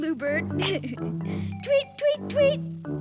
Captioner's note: giggling